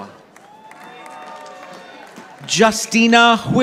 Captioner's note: audience applauding